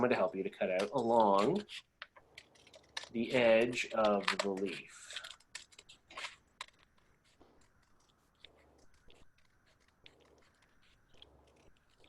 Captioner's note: long pause